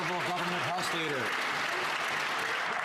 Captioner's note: some Applause